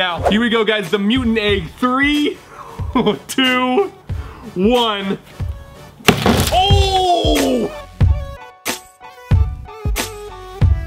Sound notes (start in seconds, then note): 2.9 chuckles; 6.0 crunching; 6.0 hammer smashes; 6.6 upbeat music